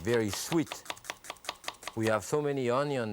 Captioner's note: knife slicing